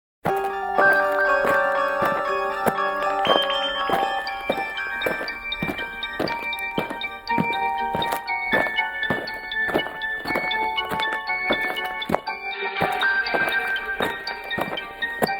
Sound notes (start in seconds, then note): 0.6 footsteps crunching; 0.6 haunting piano music